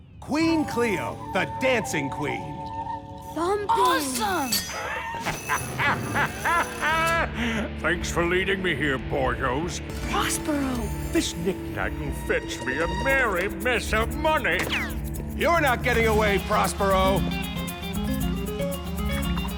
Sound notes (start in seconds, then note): 4.2 metallic clink, prospero laughs